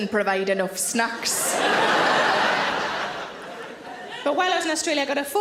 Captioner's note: audience laughing